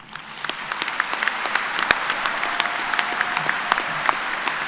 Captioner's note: applause